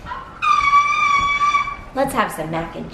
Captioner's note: shrieking